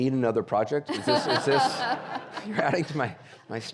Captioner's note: audience laughing